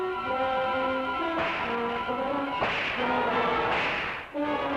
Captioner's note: whip cracking